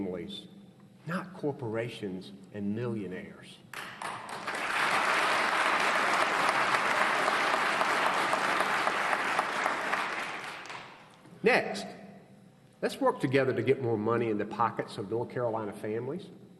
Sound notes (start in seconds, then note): 6.9 applause